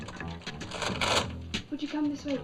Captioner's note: machine rattles